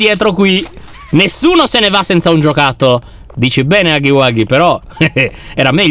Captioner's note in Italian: ridacchia